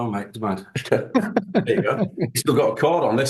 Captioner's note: laughing